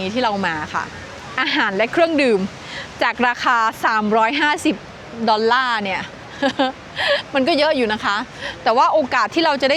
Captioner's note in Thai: เสียงหัวเราะ